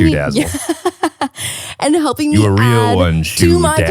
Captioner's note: laughs